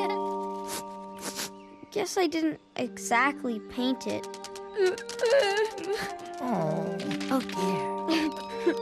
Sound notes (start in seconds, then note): 1.1 sniffles; 4.8 crying